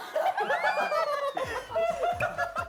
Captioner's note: laughing